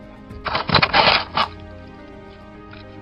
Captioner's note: shaking noise